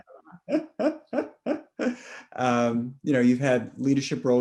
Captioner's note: laughs